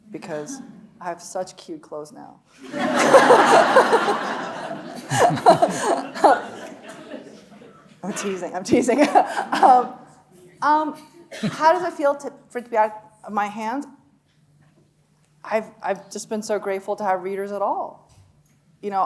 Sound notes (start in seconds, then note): 2.6 audience laughing; 2.7 chuckling